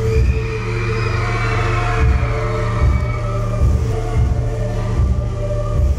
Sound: crowd cheering; live music

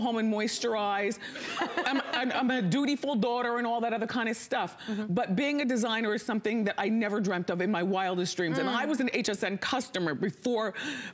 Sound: laughter

